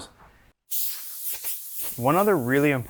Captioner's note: air spraying